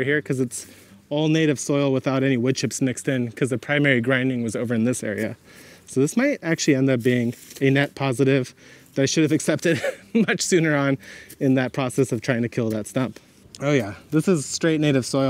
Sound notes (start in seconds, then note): 9.6 laughs; 11.3 shovel swishes